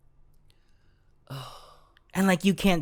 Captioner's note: sigh